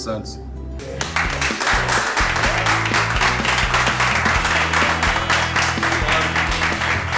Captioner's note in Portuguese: aplausos